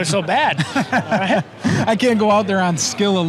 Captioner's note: laughing